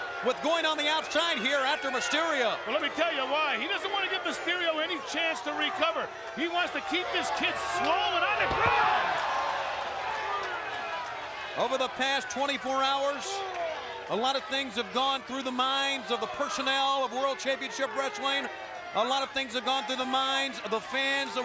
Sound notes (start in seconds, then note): 8.9 crowd exclaiming